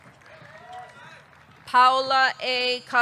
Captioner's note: audience clapping; audience cheering